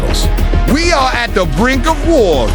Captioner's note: raising his voice